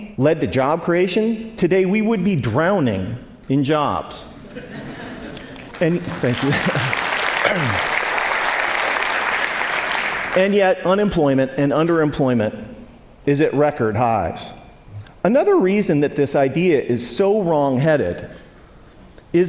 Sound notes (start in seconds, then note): 8.8 applaud